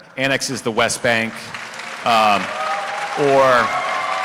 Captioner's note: cheering